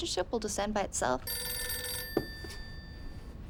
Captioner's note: phone rings